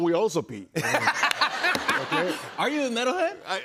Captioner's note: laughter